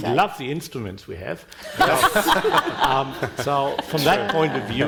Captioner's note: panel and audience laughing